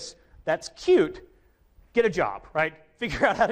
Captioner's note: chuckles